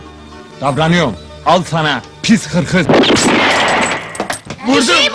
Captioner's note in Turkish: tabanca gürültüyle patlar